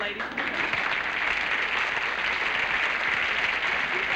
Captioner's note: applause